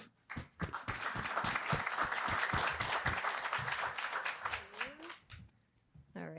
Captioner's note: attendees applauding